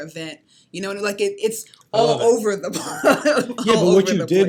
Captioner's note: laughs